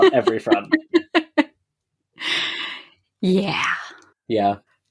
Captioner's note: laughs